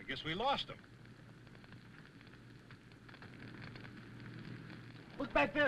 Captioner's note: fire crackling